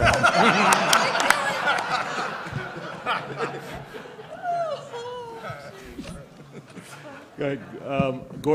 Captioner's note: laughter